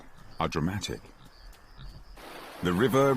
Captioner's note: water rushing